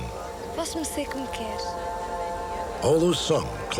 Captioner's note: speaking portuguese